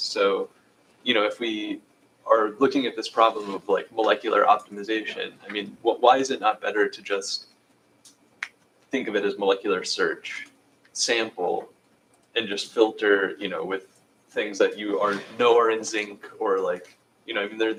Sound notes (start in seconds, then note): 8.4 snaps fingers